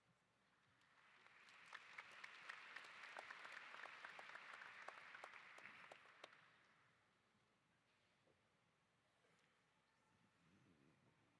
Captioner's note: applause